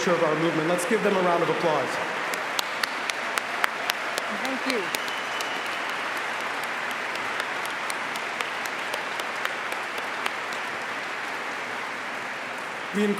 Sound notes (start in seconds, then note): 6.1 applause